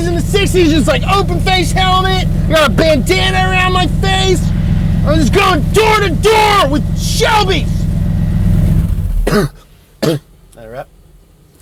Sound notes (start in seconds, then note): 8.6 coughs